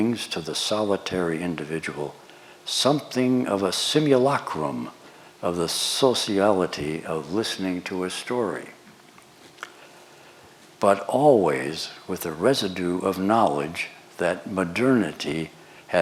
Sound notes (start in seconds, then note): none